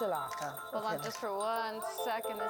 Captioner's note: speaking in foreign language